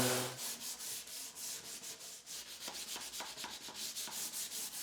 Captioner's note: sandpaper skritching